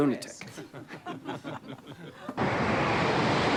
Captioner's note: laughter